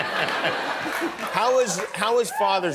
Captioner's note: laughter